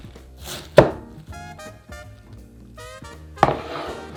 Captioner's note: knife chopping